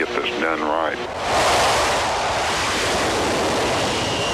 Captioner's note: plane noise